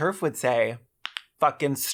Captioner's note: knuckles crack